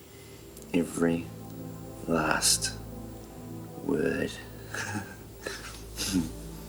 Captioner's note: laughs